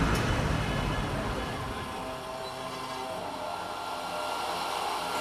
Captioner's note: whirring